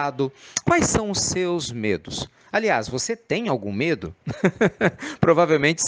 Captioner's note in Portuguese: risadas